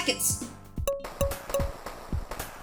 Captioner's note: dink dink dink